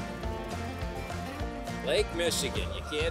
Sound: fishing reel clicking

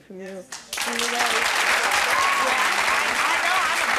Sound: clapping

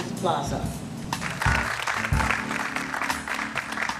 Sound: applause

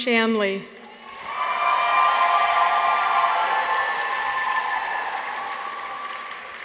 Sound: audience applauds; people cheer

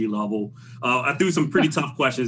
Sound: laughs

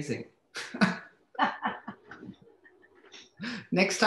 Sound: laughs

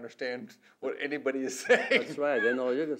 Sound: laughs

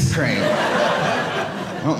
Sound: audience laughing

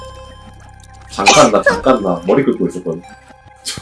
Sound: sneezes

